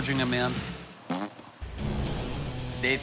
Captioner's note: blows raspberry